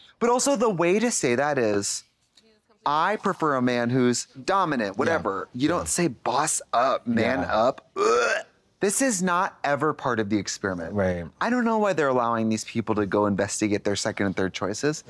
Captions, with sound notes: - But also the way to say that is, "I prefer a man who's dominant," whatever. You don't say boss up, man up. (gags) This is not ever part of the experiment. - Right. - I don't know why they're allowing these people to go investigate their second and third choices.